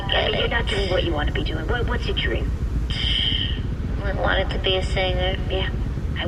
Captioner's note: sighs